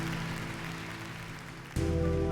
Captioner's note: applause